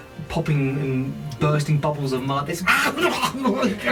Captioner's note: squacking creature noises